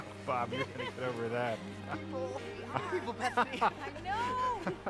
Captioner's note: scoffs; happy Chattering